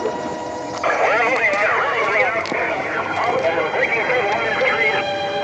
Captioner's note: voices on police radio